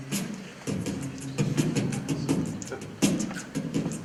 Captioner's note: beatboxing